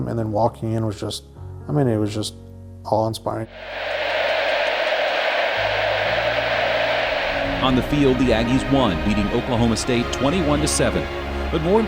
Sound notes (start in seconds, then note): 3.5 crowd cheering